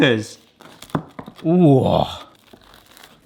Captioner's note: knife knocks